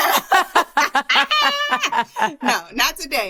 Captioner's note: laughter